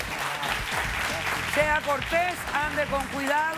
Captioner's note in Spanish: Aplausos